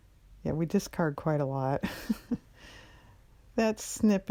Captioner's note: laughs